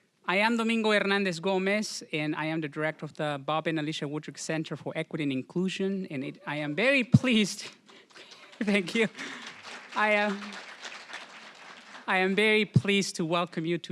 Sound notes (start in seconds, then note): 7.8 applause; 8.6 chuckling; 9.5 applause